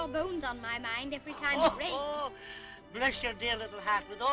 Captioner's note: laughing